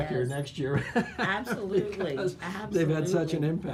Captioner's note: laughter